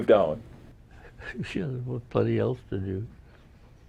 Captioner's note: laughs